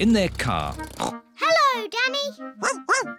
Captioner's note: snorts; barks